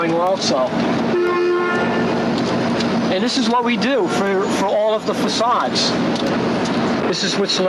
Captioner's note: cars beep in distance